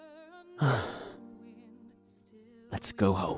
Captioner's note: sighs